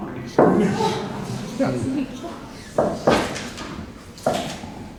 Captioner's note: audience laughing